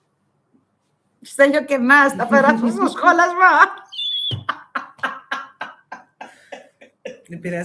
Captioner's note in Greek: γέλια